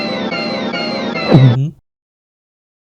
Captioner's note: gulp